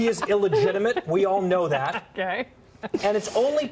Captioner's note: laughter